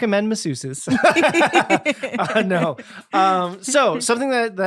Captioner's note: both laughing